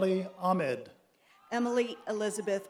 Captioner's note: applause